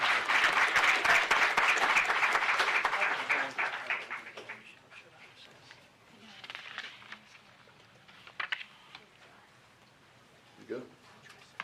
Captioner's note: applause